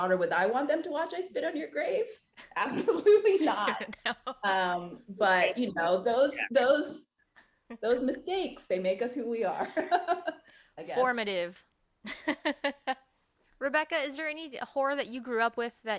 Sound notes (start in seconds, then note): 3.3 laughings; 3.3 laughs; 12.0 chuckles